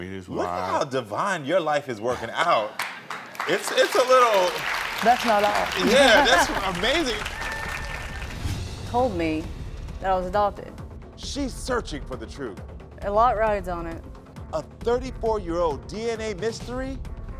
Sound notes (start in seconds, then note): 4.3 crowd clapping